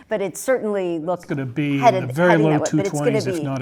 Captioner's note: laugh